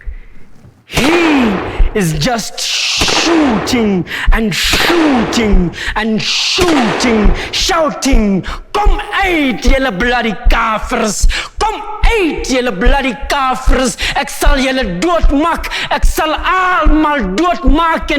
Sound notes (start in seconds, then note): 2.6 gunshots